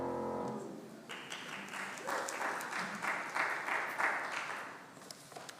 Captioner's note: congregation clapping